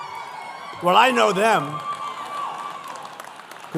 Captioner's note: applause